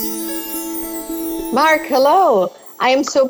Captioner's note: sparkling sounds